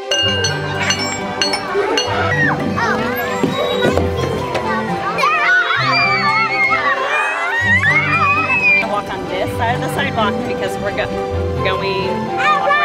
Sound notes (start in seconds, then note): 0.6 kids chattering and laughing; 5.1 screaming